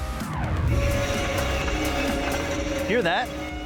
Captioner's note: screeching